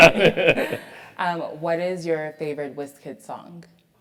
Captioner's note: laugh